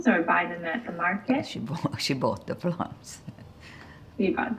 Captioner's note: laughing